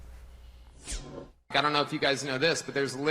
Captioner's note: screen whooshes